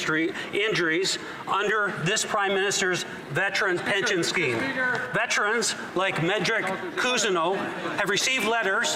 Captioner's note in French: voix de l'interprète